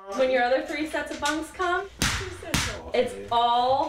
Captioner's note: metal slapping